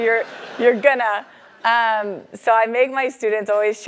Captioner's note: laugh